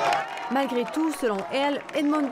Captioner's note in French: applaudissements